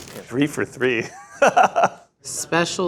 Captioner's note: laughs